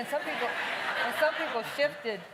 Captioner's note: laughing